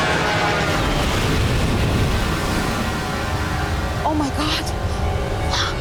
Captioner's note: plane crashing